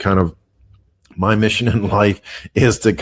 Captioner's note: laughs